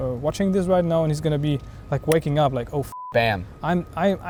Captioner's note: beep